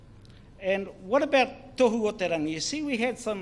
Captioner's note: speaks in foreign language